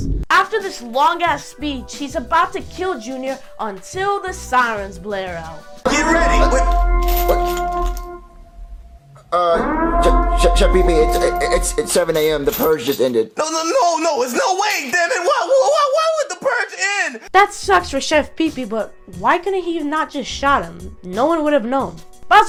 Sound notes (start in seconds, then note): 5.9 The purge concludes as sirens blare out; 15.8 stutters